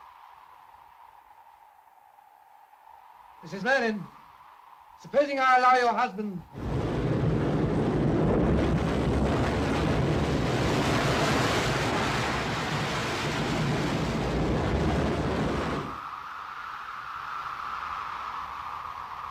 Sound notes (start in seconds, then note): 0.2 wind blows; 6.5 strong wind & waves; 15.8 wind howls